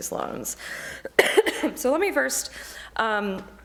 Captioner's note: coughs